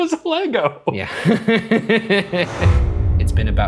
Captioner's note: laughing